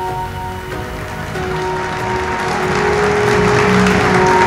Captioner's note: audience applauds; bright music